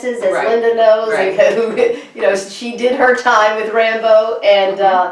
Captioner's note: chuckles